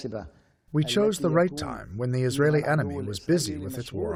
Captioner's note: through translator